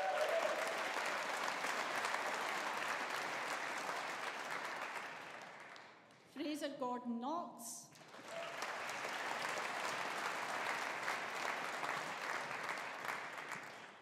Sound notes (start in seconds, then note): 0.0 audience applauding; 7.9 audience applauding